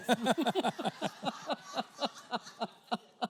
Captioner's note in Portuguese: risos da plateia